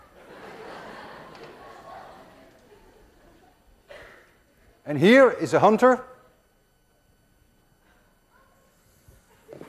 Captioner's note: class laughs